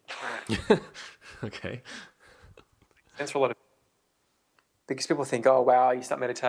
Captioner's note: laughs